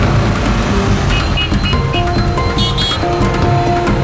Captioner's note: vehicles honking